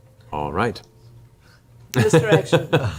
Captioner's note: laughs